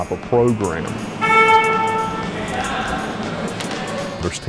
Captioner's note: horn honks